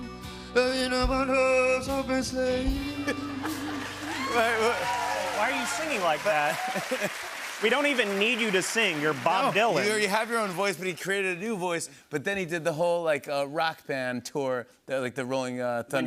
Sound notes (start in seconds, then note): 3.4 cheers and applause